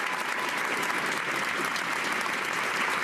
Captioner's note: cheers and applause